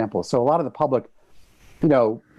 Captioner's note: none